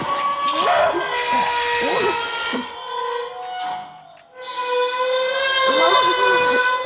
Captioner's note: high pitched ringing; metal screeching